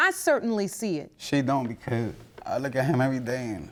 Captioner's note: voice breaking